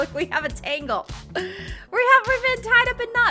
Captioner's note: gasping